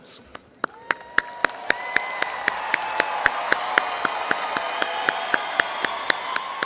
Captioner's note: crowd cheering and applauding